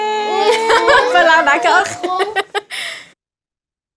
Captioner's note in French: rires